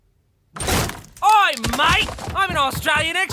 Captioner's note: Australian accent